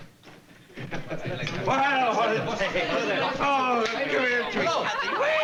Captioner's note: chatter